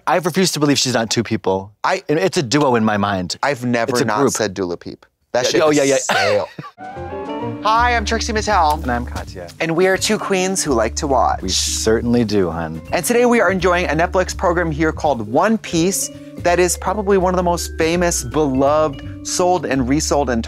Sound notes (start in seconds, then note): 6.8 pleasant chime